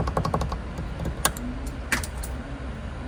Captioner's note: taps